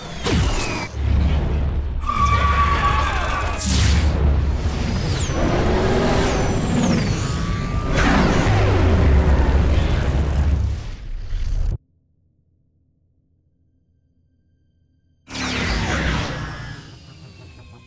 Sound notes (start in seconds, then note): 2.0 screaming